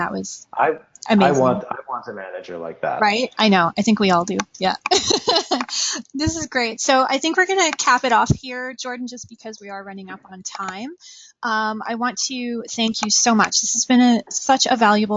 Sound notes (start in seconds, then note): 4.8 laughing